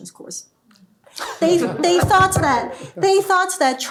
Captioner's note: laughter